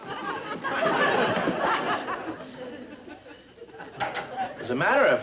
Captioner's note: audience laughter